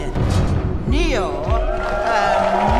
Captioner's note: crowd cheering